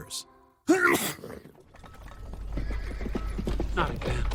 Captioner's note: sneeze; hooves approaching